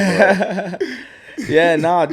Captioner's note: laughs